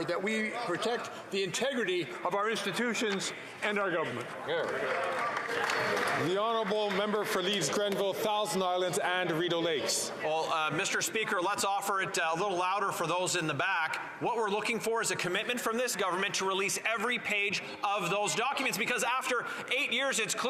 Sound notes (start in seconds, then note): 8.4 some Applause